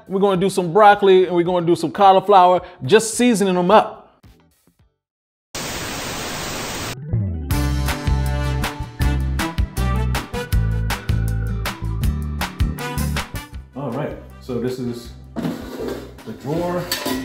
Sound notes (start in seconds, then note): 5.6 TV static buzzing; 7.6 bright music